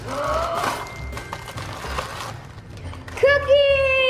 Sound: gasps

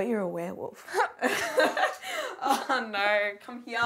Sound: both laughing

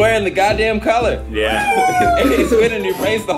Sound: cheering

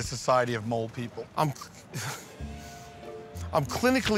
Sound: chuckles

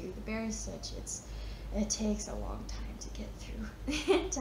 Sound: chuckles

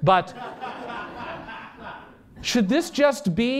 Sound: laughter

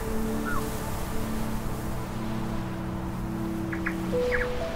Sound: waves

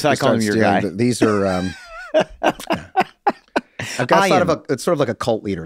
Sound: Glenn laughing

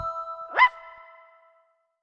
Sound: bark

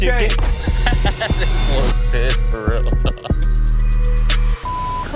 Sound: laughs

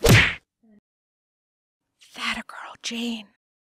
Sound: whispers

